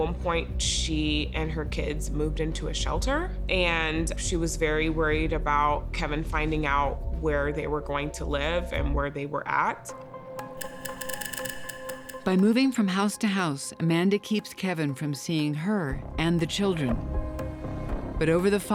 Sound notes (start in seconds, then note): none